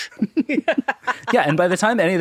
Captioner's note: laughing